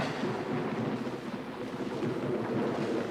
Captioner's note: thunder rumbling; raindrops pattering